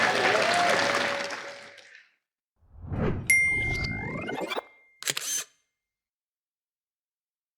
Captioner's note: applause